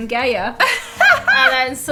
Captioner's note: laughing